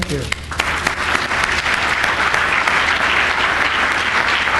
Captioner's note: applause